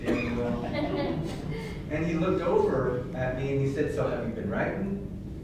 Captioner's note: laughter